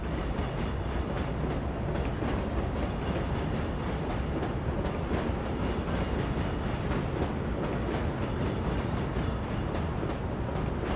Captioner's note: train passing